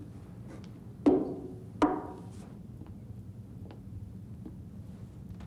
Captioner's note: glasses thudding